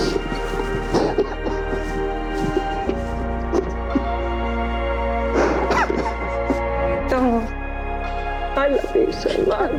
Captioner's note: crying